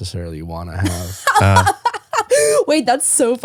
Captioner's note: laughing